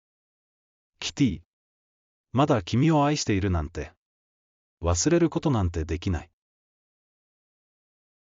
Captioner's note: inner monologue